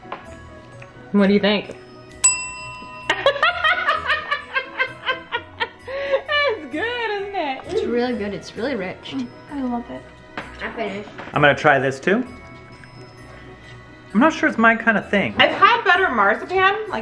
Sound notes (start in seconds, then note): 2.1 bell dings; 3.0 laughing